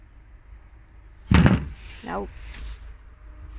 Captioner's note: phone falls